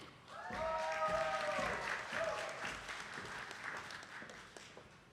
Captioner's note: attendees clapping